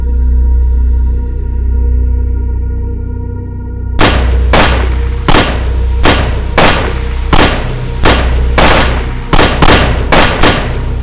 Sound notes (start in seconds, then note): 4.0 gun shooting over and over; 9.4 gun shooting faster